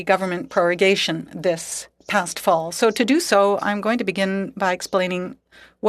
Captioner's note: speaking French